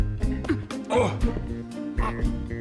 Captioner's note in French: grognements